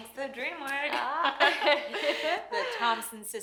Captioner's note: women laughing; laughs